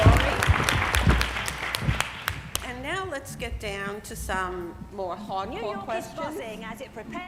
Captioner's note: applause